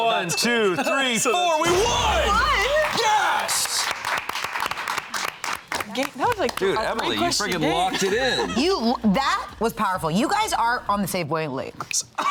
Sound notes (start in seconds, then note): 3.8 all applauding